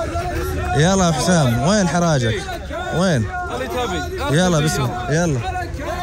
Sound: Arabic

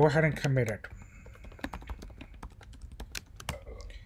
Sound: typing

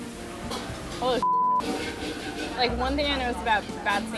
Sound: beep

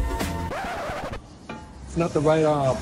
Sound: scratch record

